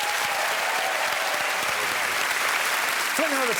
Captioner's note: cheering and applause